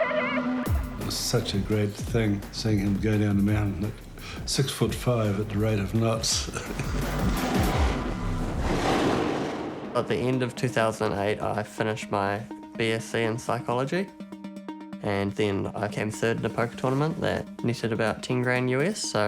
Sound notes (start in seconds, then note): 6.5 chuckles